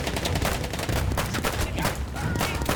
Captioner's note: gunfire